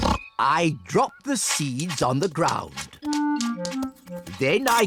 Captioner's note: oinks